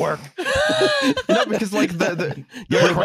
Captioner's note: laughter